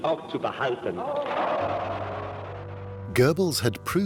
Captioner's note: cheering